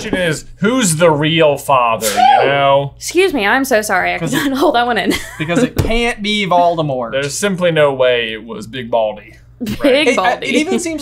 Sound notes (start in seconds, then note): 2.0 sneezing; 5.1 laughing; 9.7 laughing